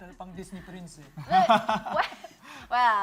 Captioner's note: laughs